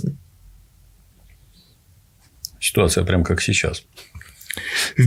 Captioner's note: chuckles